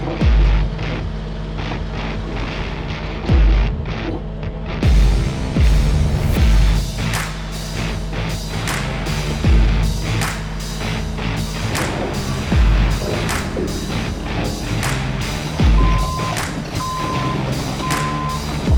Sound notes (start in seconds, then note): 0.2 upbeat music; 0.2 vehicle humming; 11.4 upbeat music; 11.5 metal clanging; 15.3 upbeat music; 15.3 vehicle beeping